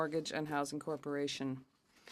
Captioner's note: speaking French